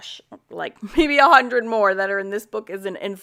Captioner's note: laughs